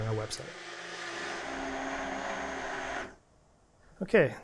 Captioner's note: whirring